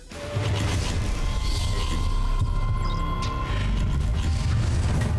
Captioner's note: high-tech mechanical sounds